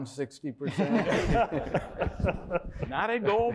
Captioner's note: laughter